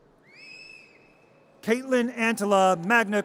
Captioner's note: audience cheers